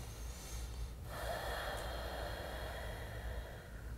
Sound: sighs

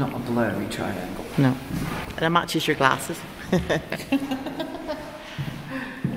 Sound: laughter

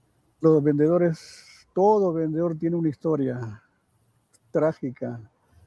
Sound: speaking in foreign language

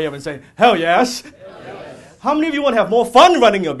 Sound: audience shouting "hell, yes"

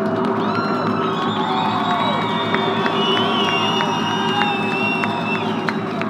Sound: crowd cheers and applauds

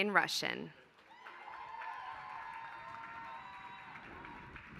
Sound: applause

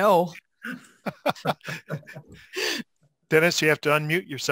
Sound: group laughing

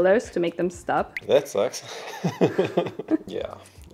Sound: laughs

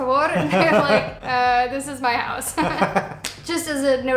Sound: laughter

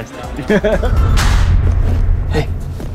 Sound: laughs; clapboard smacking

